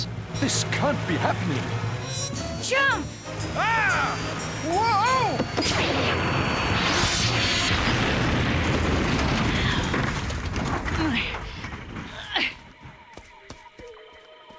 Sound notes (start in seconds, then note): 3.5 yelling; 5.6 exploding; 10.1 grunting